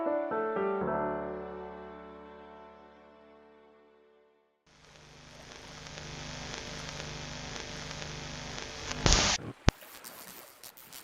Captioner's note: TV hums, turns off, a crackle, waves